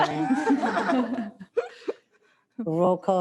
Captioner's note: they all laugh